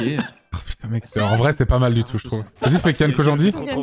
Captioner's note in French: rires